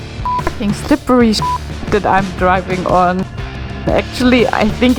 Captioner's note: beep